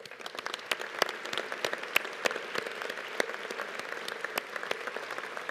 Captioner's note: audience applauding